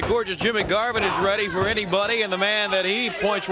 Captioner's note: crowd chatter